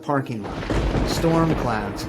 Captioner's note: thunder roars